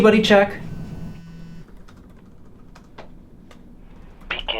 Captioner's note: phone buzzing